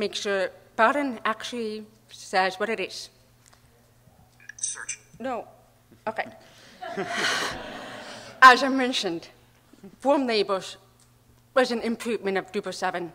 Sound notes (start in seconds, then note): 4.8 voiceover; 6.8 audience laughing